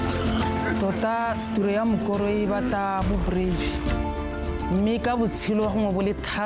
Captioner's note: speaker speaking in foreign language